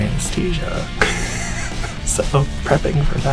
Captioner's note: laughing